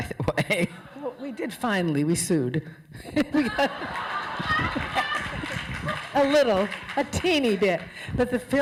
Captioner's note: laughter